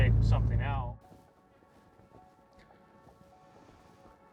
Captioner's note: wind Blowing